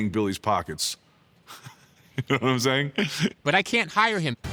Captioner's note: laughs